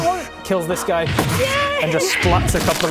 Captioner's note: doosh!